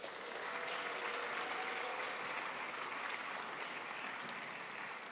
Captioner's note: crowd applauds